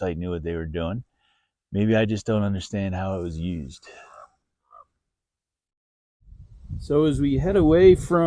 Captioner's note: light wind noises